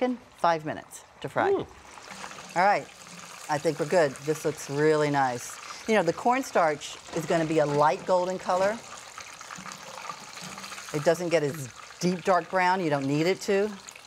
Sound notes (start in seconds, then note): 9.1 chicken sizzling